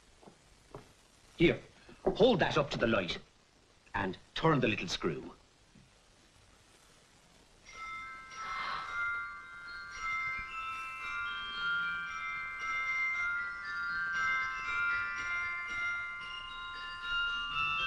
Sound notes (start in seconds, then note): 7.6 music box twinkling; 8.4 The Angel gasps